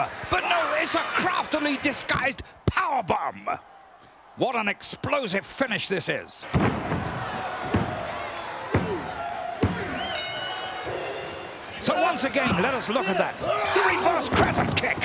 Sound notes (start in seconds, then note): 6.7 applause